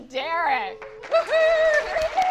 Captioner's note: everyone cheering